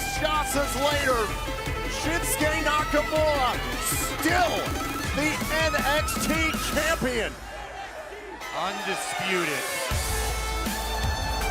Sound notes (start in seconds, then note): 2.9 crowd cheering